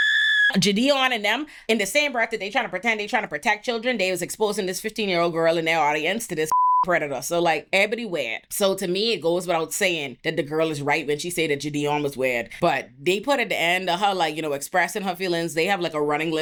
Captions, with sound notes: (screaming) Jadion and them, in the same breath that they trying to pretend they trying to protect children, they was exposing this 15 year old girl in their audience to this (beep) predator. So like everybody weird. So to me, it goes without saying that the girl is right when she say that Jadion was weird, but they put at the end of her like, you know, expressing her feelings. They have like a running